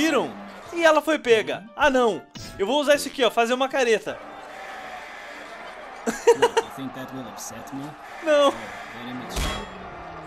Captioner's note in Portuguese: Risos